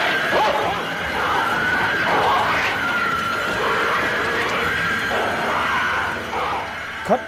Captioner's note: dogs growling